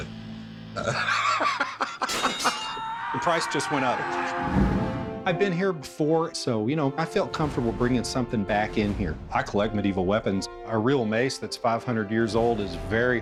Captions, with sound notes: [laughs] [weapons clanging] The price just went up. I've been here before, so, you know, I felt comfortable bringing something back in here. I collect medieval weapons. A real mace that's 500 years old is very hard to come by,